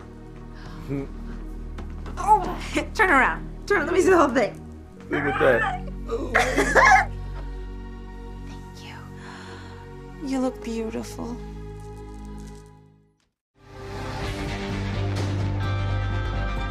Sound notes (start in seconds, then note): 0.3 laughs; 5.1 squeals